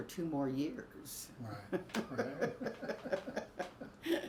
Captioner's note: both laugh